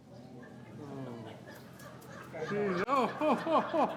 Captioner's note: audience laughing